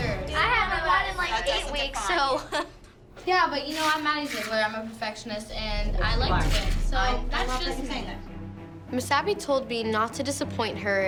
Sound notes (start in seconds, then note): 1.9 laughs